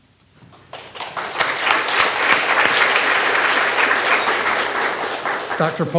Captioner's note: graduates clapping